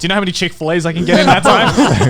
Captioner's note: laughing